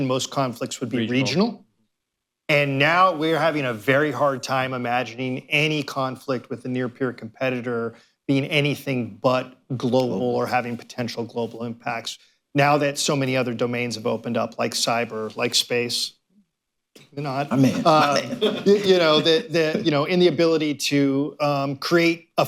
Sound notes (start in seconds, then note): 17.5 laughter